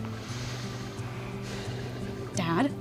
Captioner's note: sighs